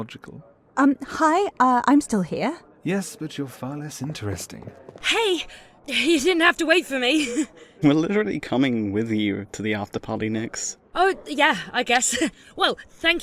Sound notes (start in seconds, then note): 4.4 approaching footsteps; 5.4 breathless; 7.1 laughs; 12.0 laughs